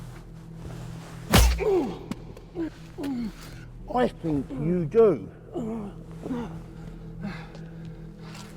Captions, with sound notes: (slap thudding) (Dan groans) - I think you do.